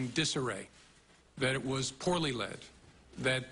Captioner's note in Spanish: habla en ingés